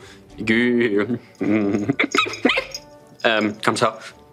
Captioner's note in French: petits cris